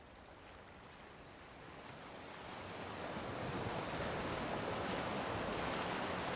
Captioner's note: ocean waves